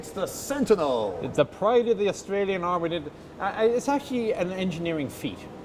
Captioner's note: sarcastically